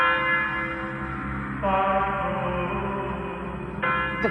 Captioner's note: Ambient GamesMaster chant noise